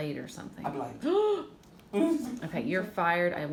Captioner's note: gasping